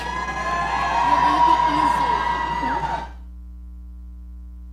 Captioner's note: audience cheering